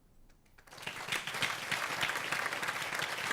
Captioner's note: applause